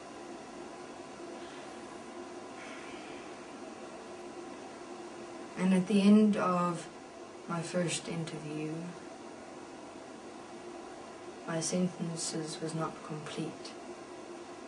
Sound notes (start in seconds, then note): 2.6 sigh